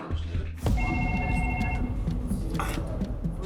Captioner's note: phone ringing